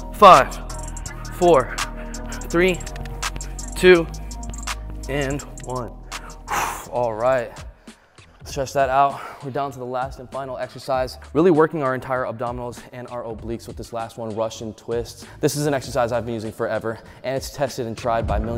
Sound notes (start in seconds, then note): 5.9 exhales